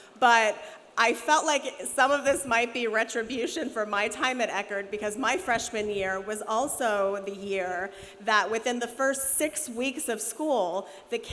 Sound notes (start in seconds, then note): none